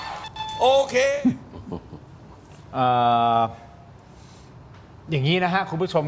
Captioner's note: laughter